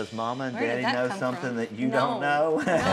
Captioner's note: chuckles